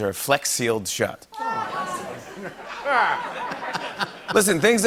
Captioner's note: laughter